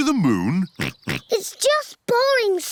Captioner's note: chuckles; oinks